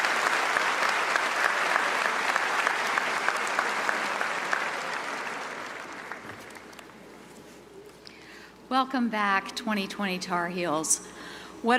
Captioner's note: applause